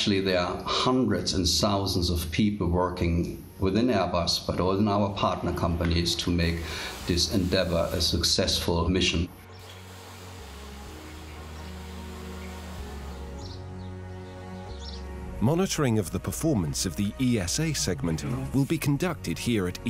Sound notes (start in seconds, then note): 13.7 birds chirping; 13.7 bright music